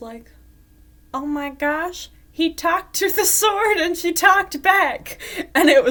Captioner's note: laughing